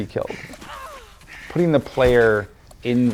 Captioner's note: Lara gasping